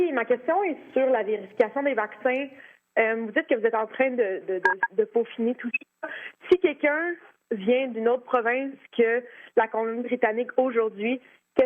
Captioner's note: speaking French